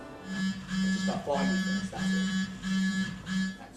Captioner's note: phone vibrates